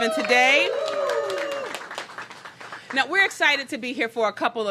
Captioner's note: applause